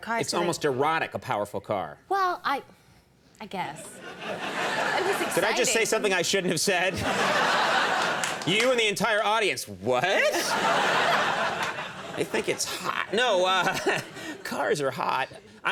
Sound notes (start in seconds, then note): 3.8 audience laughing; 10.0 audience laughing